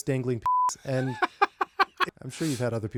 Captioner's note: laughing